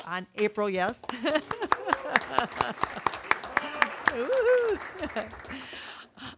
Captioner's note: applause